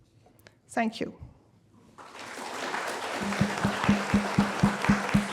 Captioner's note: applause